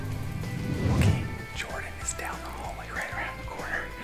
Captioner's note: whispers